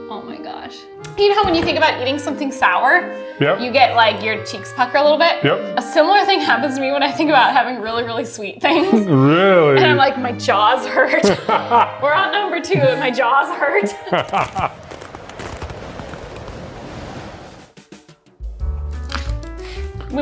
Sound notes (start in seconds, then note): 11.2 laughs; 13.8 ice crackling; 14.4 wind swirling; 17.7 lively music